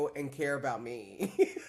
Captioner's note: laughs